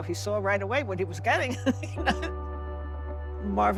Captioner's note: laughs